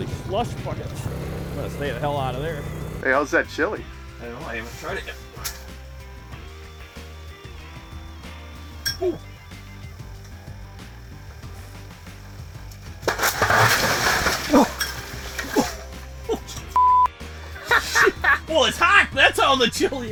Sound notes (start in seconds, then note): 0.0 engine revving; 3.5 voiceover; 11.8 crashing; 17.4 laughter